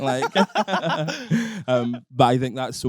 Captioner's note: both laughing